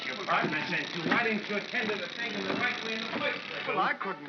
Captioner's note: chattering sound of gears; Ollie grumbles